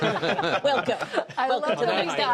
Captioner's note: laughter